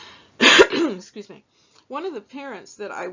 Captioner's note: coughs